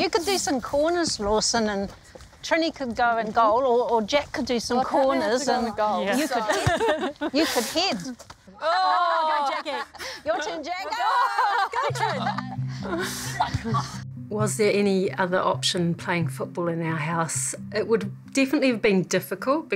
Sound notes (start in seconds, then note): 6.8 laughs